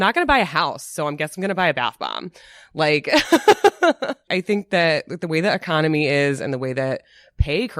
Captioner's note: laughs